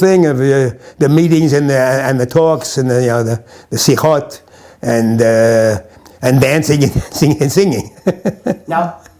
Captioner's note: discussions; chuckles